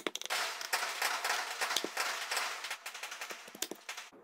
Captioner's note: firecracker sound 🧨